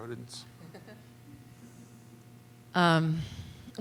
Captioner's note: laughter